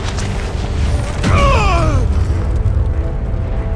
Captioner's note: groan